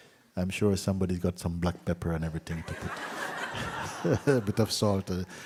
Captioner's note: laughter